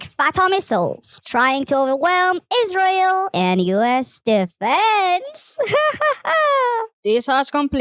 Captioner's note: laughs